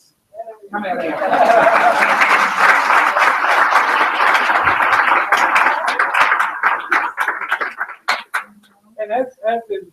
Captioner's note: applause